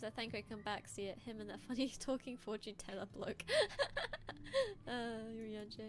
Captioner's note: laughing